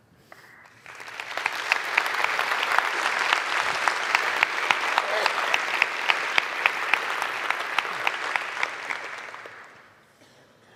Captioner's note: 청중 박수